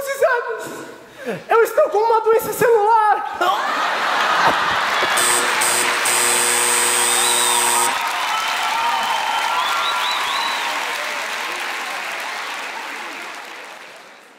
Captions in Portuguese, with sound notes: Os exames... Eu estou com uma doença celular! [campainha e aplausos]